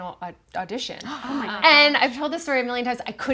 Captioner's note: group gasping